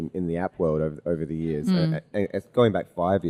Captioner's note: hums in recognition